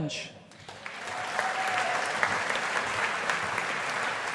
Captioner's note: audience applauding